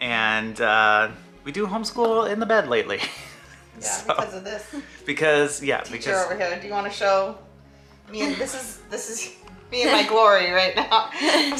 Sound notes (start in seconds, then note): 2.9 laughs; 11.3 everyone laughs